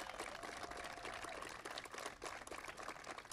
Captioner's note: applause